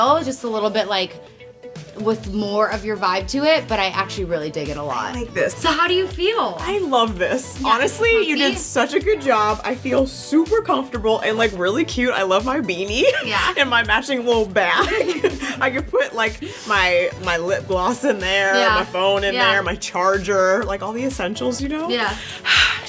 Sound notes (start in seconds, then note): 14.8 laughs